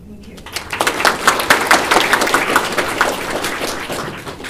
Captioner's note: applause